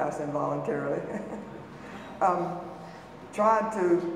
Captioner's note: chuckles